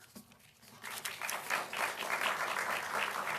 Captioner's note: applause